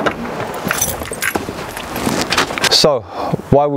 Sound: tools clacking

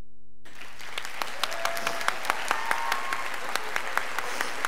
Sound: scholars applauding

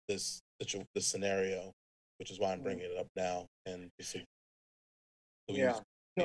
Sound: speaks faintly

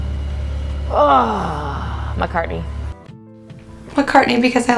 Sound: grunts

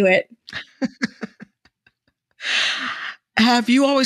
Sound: person laughing

